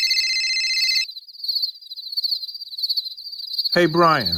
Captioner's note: phone ringing; crickets chirping